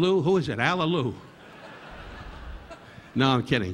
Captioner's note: audience laughing